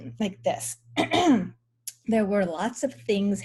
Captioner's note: clears throat